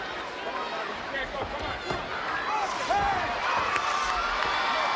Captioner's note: crowd cheering